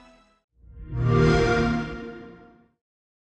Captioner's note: xbox sound